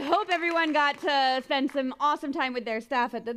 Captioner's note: applause